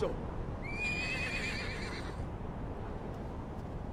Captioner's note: horse noises